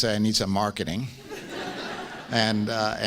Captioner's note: laughs